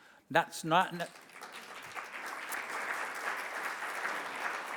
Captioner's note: audience applauds